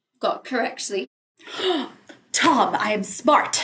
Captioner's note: gasps